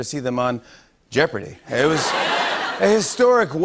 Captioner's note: laughter